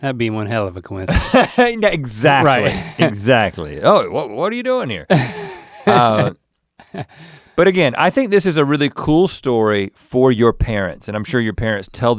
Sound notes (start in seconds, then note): 1.1 Rhett chuckles